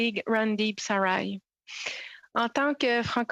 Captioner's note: speaking French